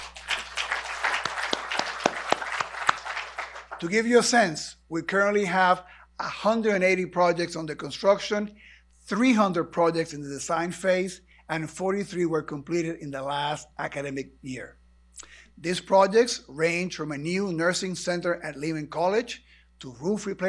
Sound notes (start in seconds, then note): 1.9 applause